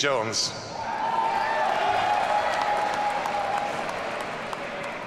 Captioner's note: audience cheering